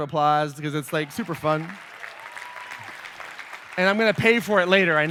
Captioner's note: applause